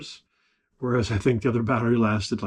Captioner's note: laughs